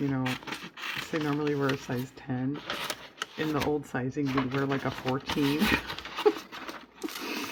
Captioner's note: laughs